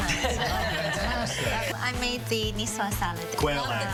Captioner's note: laughter